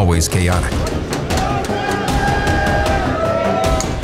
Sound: cheering

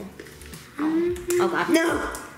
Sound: hums

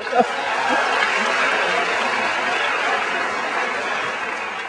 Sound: audience applauding

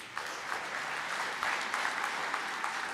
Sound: applause

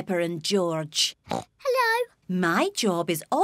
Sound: oinks

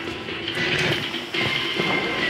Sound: radio static

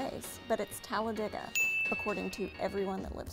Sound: bell chimes

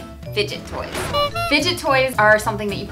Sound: horn blows

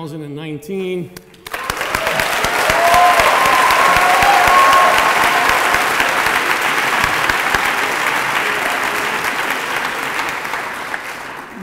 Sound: applause

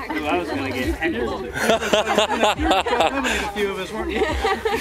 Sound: laughter

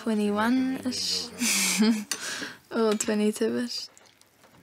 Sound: laughs

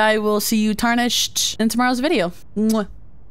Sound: kiss

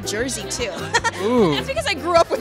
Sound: laughs

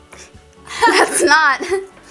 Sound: both laugh

